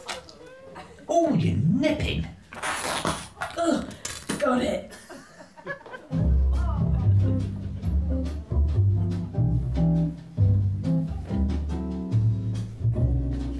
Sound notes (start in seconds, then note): 2.6 fleshy burst